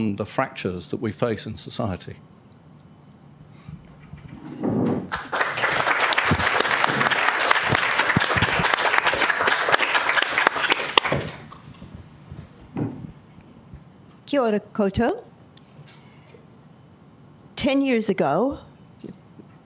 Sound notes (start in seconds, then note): 2.1 applause